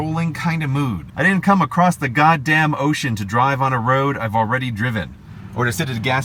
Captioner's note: said with lots of passion